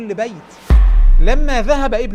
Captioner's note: sound effects